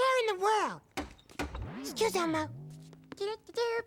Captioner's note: knock knock